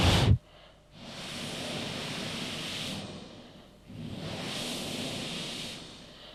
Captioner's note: shri mataji blows into the microphone